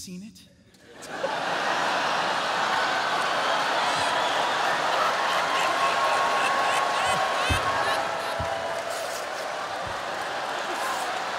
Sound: laughter

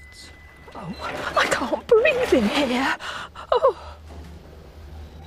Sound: ding; squashing noise

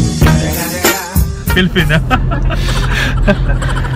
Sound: laughing

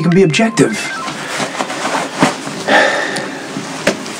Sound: cell phone rings

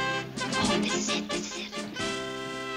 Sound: whispering

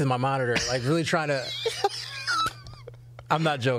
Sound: laughs

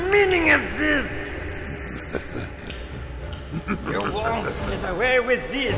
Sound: laugh

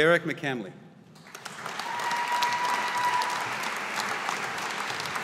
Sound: audience applauding

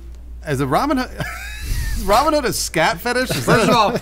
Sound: wheezing

